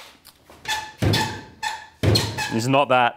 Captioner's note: squeaking